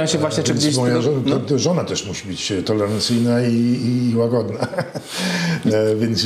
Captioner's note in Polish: śmiech